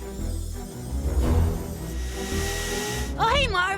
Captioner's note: light vacuum sound